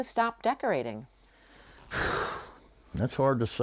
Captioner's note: exhales